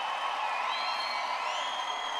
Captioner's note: audience applauding